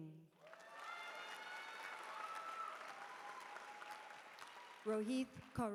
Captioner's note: cheering